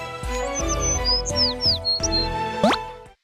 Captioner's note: chirp chirp